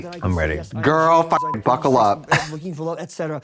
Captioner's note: beep